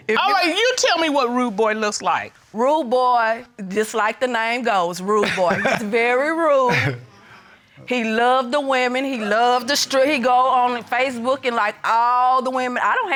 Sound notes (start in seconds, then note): 2.6 chuckles